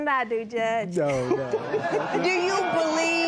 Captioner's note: laughter